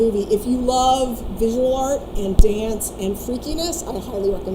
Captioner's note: none